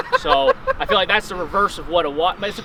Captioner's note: laughing